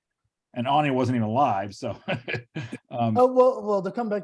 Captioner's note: laughs